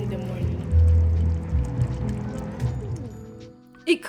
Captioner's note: pots bubbling